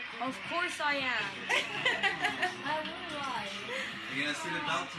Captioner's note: laugh